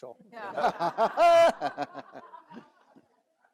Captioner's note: all laugh